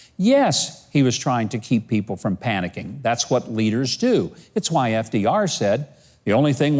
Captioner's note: none